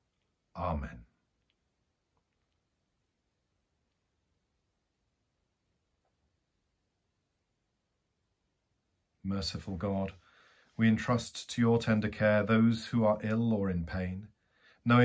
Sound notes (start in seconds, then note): 1.0 silence